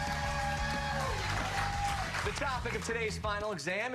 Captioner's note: cheers and applause